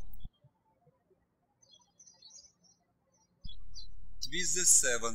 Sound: birds chirping

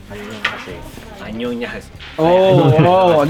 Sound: spoken in Korean

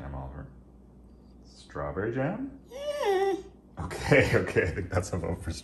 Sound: Oliver whines

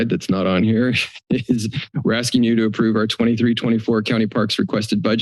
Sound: chuckles

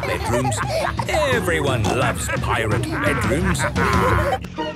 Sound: laughter

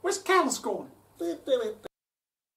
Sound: humming to himself

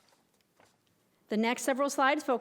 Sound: none

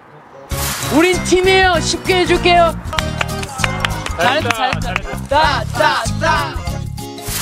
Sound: clapping

